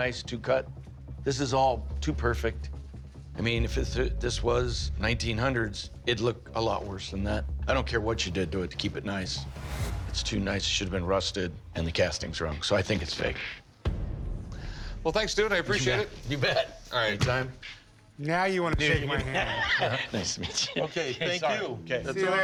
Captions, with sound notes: too--this is all too perfect. I mean, if it--this was 1900s, it'd look a lot worse than that. I don't care what you did to it to keep it nice. It's too nice. It should have been rusted. And the casting's wrong, so I think it's fake. - Well, thanks, dude. I appreciate it. - You bet, you bet. - All right. - Any time. - Now you want to shake my hand. - [laughs] Nice to meet you. - Okay, thank you. - Hey, sorry. - That's all right. - See you later, Rick.